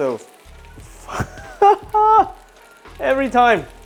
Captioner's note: laughs